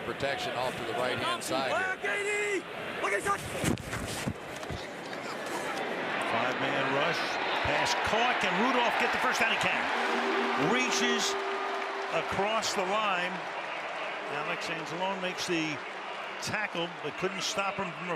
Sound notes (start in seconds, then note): 4.5 scuffling; 9.8 horn